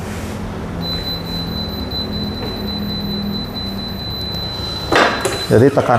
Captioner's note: beeping sound; press machine noise